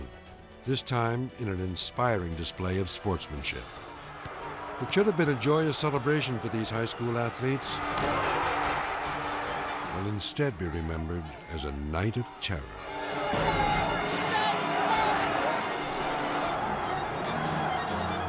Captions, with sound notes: this time in an inspiring display of sportsmanship. It should have been a joyous celebration for these high school athletes. (crowd cheering) It will instead be remembered as a night of terror. (crowd shouting) (dramatic music)